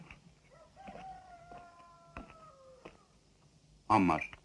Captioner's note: rooster crowing